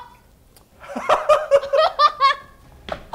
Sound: laughs

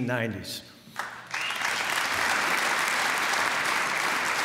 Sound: applause

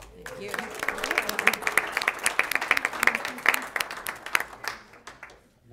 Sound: applause

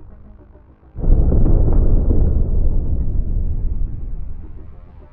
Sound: thunder in distance

